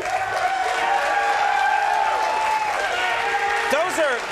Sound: audience cheering

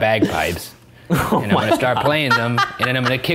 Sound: laughing

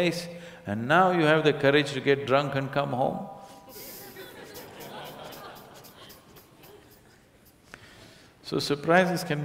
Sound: laughter

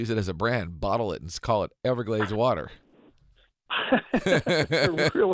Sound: laughter

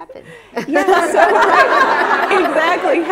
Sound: laughter

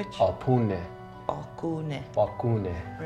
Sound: Baratunde speaking foreign language; speaking foreign language; Baratunde speaking foreign language

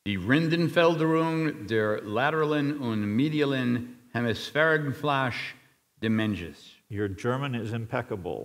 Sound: speaking German

